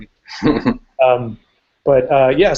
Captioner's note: chuckles